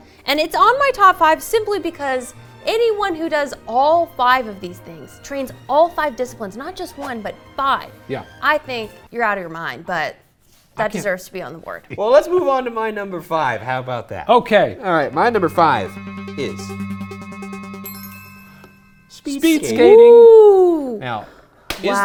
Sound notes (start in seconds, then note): 19.4 exclaiming